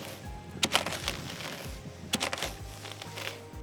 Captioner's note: comb rustling